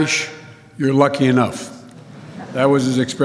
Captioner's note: laughter